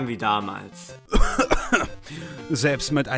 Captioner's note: coughs